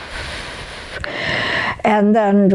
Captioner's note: breathing out